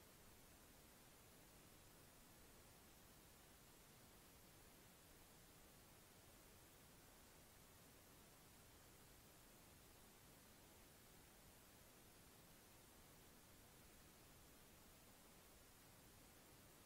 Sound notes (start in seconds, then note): none